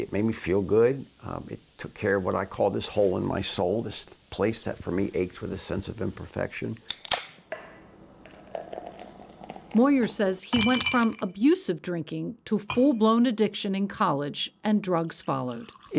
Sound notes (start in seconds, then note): 6.8 pop top snaps; 8.2 beer gurgles